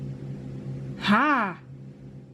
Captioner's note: distressed noise